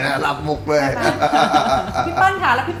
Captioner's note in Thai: หัวเราะ